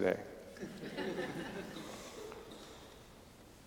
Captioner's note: audience laughing